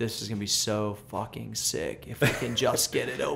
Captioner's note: laughter